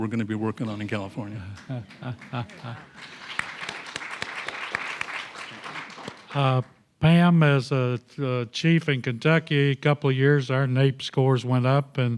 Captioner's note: applause